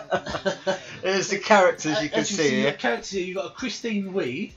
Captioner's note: both laugh